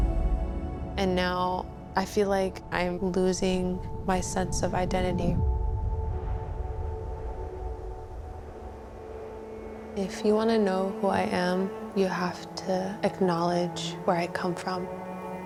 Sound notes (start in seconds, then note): 6.2 slow music; 6.2 wind whipping; 15.3 contemplative music